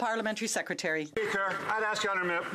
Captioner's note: some Applause